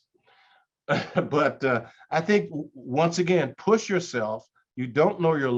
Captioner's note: chuckles